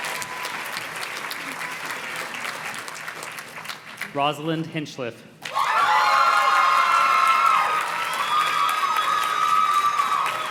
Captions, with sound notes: Rosalyn Hinchliff. (audience cheers and claps)